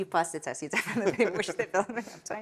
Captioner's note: laughing